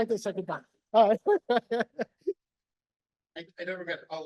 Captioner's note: laughs